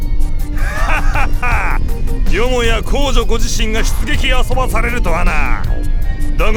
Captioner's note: laugh